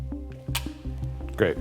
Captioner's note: gentle apprehensive music; camera clicks